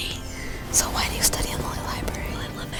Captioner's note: whispering